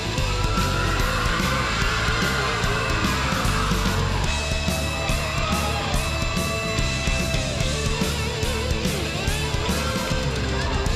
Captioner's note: crowd cheering